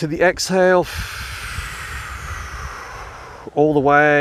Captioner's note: breathing heavily